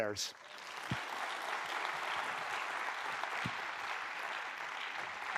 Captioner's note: applause